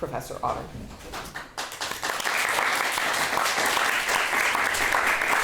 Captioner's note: audience applauding